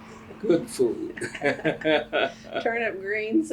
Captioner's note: laughs